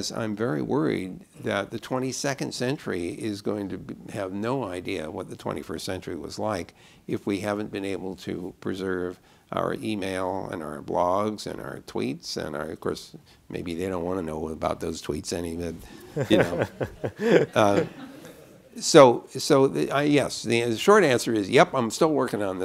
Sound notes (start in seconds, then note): 18.2 laughter